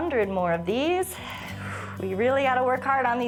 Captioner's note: exhales